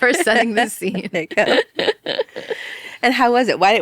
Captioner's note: people laughing